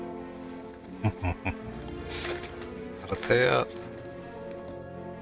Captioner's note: chuckling